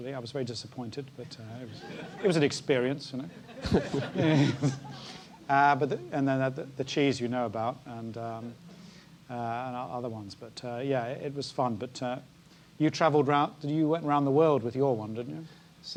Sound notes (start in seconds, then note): 3.4 laugh